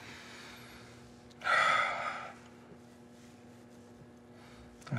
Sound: Rufus sighs

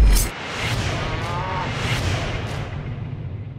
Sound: roar

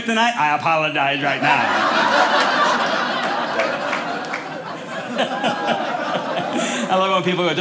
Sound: audience laughing

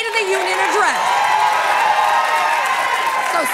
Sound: cheers and applause

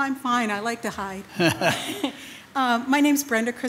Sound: loudly chuckles

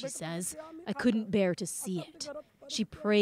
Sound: speaking alternate language

